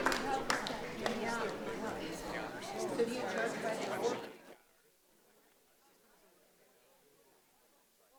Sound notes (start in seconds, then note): 0.0 audience chattering